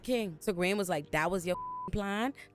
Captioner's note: beep